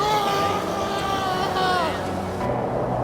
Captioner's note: yells